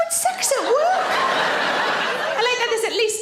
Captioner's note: audience laughs